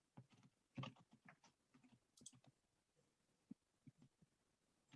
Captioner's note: keyboard keys clicking